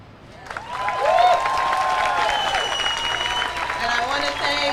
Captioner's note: audience cheers loudly